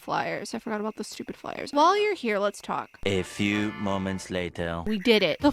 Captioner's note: french accented male narrator voice